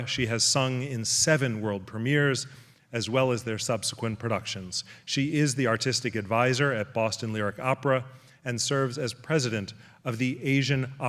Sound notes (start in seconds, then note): none